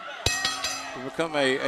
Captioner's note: bell ringing